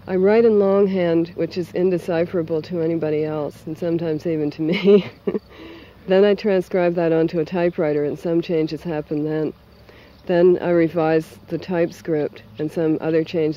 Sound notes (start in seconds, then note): 4.6 laughs